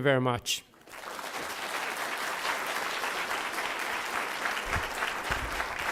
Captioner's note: applause